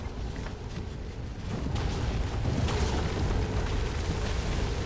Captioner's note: anomalous explosions